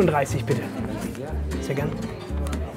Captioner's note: bubble of voices